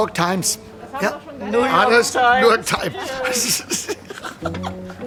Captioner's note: laughs